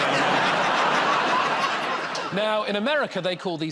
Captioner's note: laughter